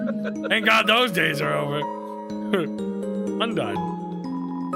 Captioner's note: laughs